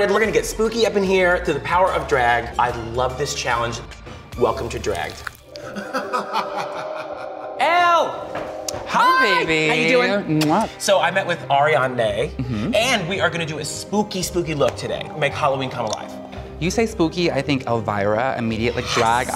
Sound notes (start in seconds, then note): 5.6 maniacal laughter; 10.3 kissing noise